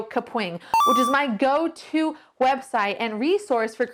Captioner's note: computer beeps